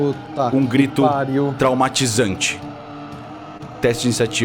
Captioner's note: GM: a traumatizing yell